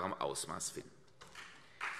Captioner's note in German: Beifall CDU und BÜNDNIS 90/DIE GRÜNEN